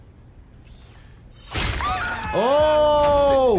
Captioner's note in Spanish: todos gritan